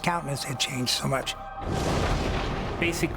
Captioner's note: thunder